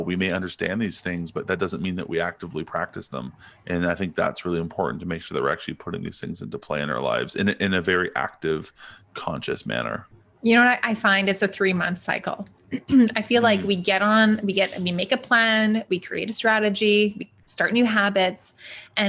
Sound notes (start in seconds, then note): 13.4 clears throat